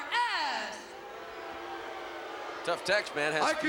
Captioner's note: crowd booing